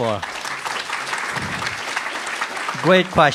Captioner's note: audience applauds